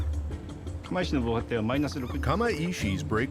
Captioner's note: speaking Japanese